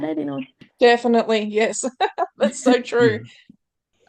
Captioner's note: laughter